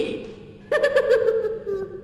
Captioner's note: giggling